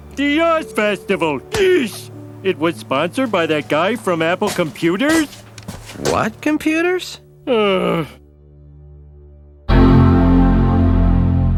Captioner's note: Homer Sighs